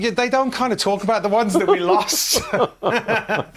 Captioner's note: laughter